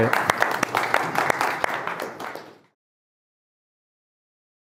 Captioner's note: group applauds